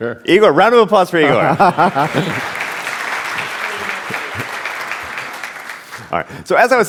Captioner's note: applause